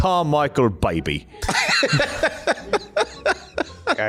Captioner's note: laughter